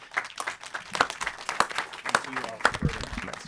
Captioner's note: audience applauding